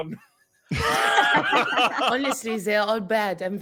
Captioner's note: group laughing